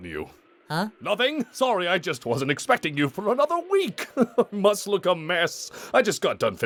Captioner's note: chuckles